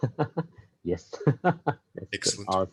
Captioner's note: laughs